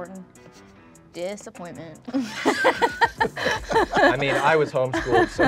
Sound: all laughing

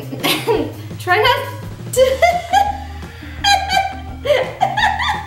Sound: laughing

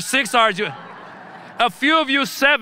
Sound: audience laughing

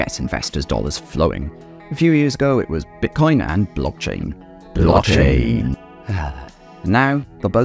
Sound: sighs

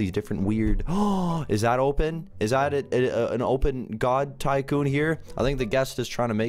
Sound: gasp

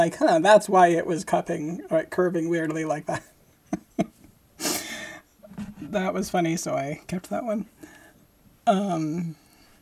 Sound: laughing

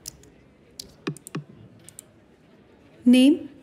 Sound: knock on the door

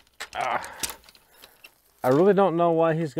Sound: groans

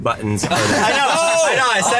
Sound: everyone laughs

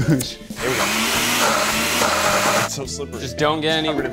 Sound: chuckling; blades spinning

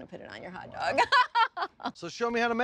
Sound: chuckling

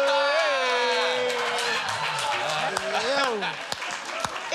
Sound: applause

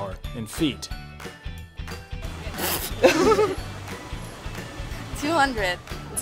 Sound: laughing

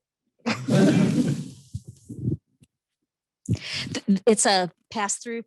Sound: laughter

